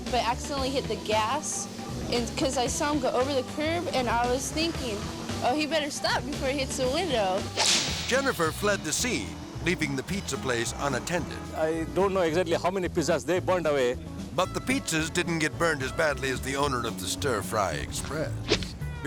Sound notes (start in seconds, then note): 7.4 air swoosh